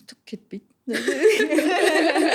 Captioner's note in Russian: смех